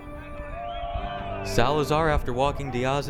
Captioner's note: crowd yelling